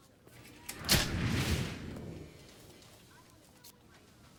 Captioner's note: camera flash pops